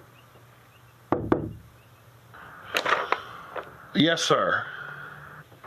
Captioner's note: knock on door